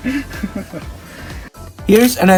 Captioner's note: giggles